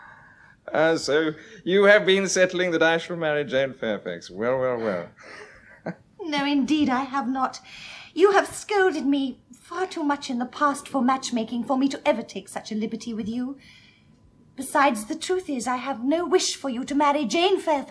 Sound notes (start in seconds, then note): 4.8 chuckles